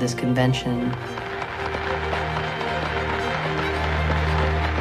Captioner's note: applause